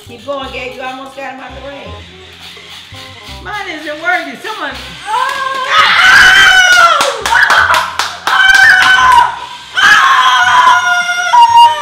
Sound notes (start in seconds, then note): 1.4 robots whirring; 5.1 shouts; 6.6 clapping; 8.2 shouts